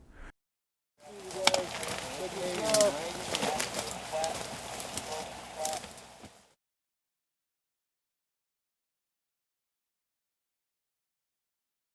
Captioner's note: radio traffic